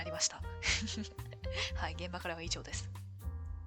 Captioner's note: laughs